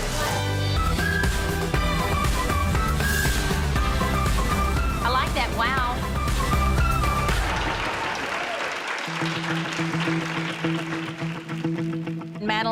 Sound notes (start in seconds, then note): 0.0 upbeat music; 7.0 cheerleaders applauding; 9.4 suspenseful music